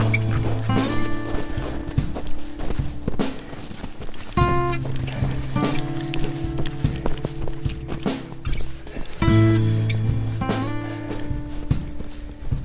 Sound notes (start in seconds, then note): 0.7 footsteps